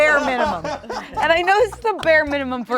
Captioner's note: laughs